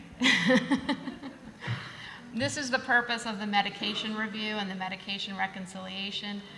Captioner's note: laughter